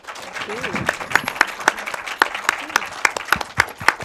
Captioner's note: audience applauds